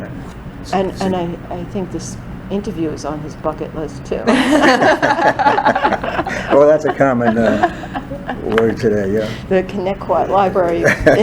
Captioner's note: all laugh